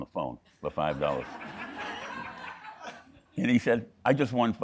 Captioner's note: audience laughing